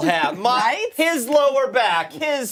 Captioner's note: laughter